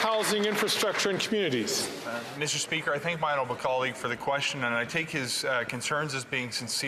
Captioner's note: some Applause